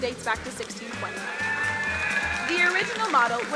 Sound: crowd cheering

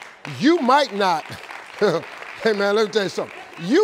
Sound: audience clapping

